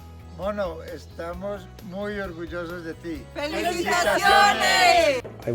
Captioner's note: speaking in a foreign language